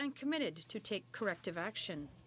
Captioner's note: speaking French